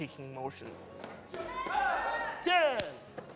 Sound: shouting

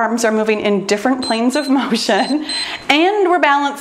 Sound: timer beeps

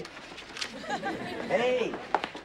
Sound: audience laughing

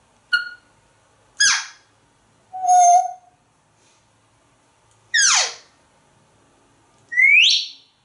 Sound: chirps and squeak sounds

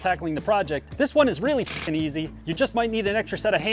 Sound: shutter

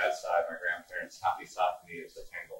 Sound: speaking foreign language

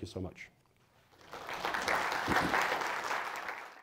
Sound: applause

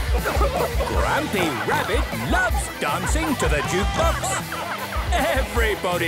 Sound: shouting

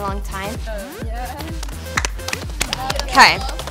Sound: applauding

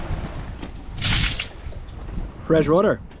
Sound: water splashing

